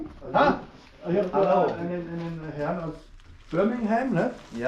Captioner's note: speaking German